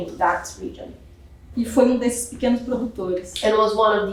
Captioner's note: speaking portuguese